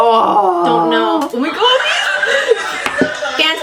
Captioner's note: excited